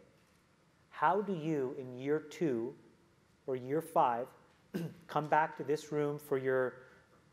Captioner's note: cough